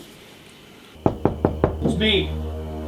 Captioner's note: knocking on the door